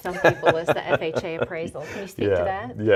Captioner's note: laughs